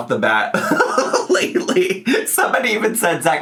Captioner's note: laughs